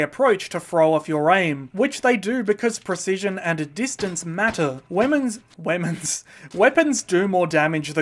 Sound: slight chuckle

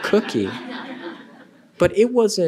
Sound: laughter

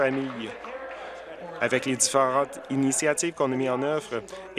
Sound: applause

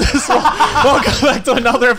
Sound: laughs

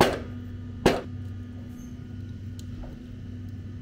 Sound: air compressor noise

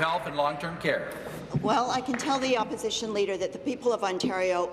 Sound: applause

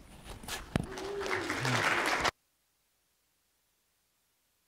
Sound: applause

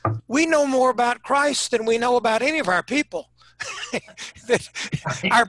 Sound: chuckling

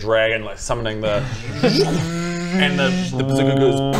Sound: poof; zzzzzzzzzzrrscschtsch

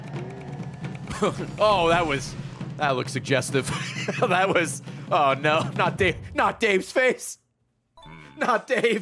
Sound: laughs

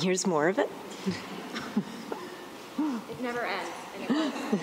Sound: laughs

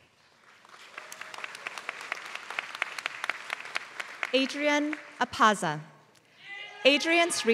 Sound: applause

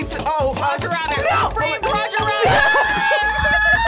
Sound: bell dings; man yelling

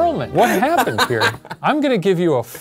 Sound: laughs

